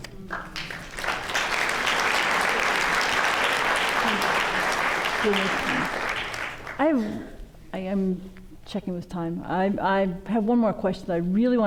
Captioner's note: applause